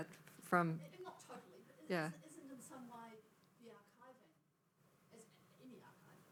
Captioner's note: faintly speaking